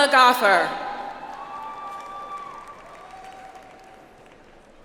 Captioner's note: audience applauds